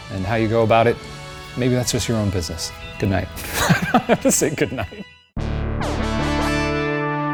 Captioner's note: laughing